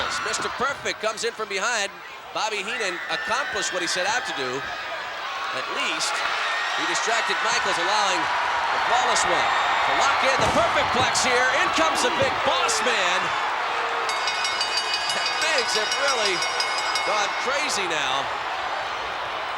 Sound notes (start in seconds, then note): 14.0 bell rings; 14.1 audience cheering